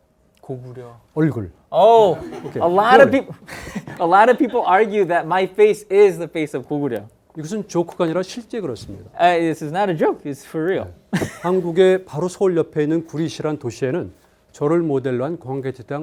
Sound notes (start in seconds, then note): 0.1 speaking in Korean; 2.1 laughs; 2.1 students laughing; 7.6 speaking in Korean; 11.2 laughs; 11.3 speaking in Korean